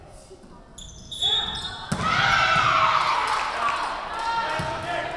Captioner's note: whistle blowing